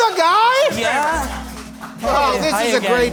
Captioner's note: applause